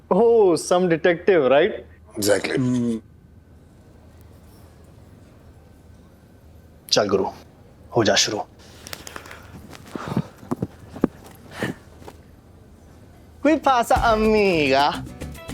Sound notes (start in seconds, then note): 8.6 stomping; 13.5 speaking Spanish